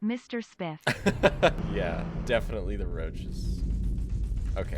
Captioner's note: laughs